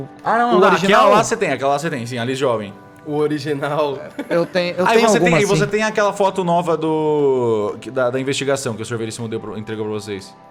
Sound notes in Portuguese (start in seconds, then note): 3.9 risadas